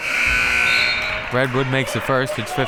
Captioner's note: buzzer